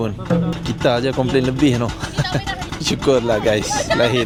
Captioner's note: laugh